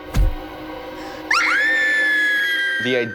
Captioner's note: girls screaming